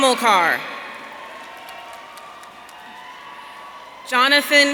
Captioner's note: audience cheering